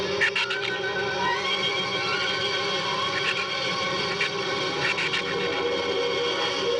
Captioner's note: shrew squeaking